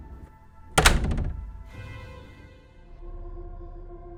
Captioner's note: door closes